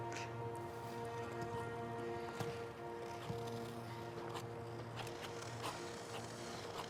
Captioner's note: gentle poignant music; skates swishing